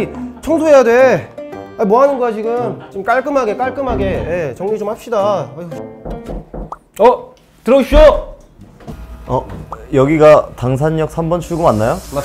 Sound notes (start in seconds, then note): 6.0 sound of knocking at the door